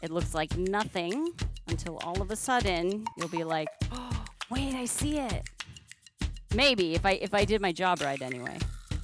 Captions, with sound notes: it looks like nothing until all of a sudden you'll be like,"*gasp* wait I see it!" Maybe! If I did my job right, anyway...